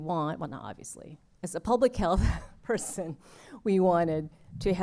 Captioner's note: laughter